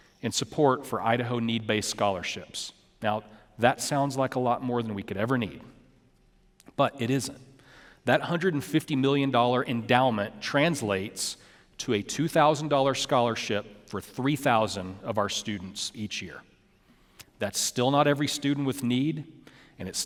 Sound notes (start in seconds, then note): none